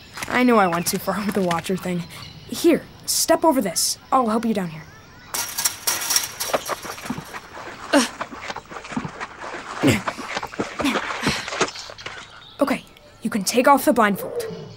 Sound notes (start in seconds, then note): 5.3 metal fence rattling; 7.8 grunting, Shuffling feet